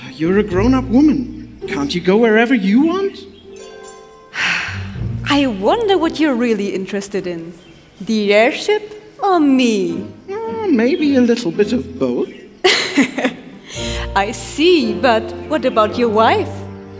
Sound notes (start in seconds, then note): 4.3 sigh; 12.6 chuckles